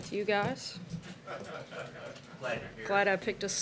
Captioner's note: laughter